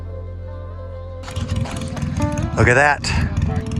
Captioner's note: motor whirring